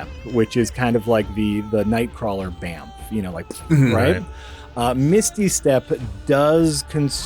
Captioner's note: poof sound